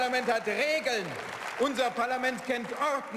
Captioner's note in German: Beifall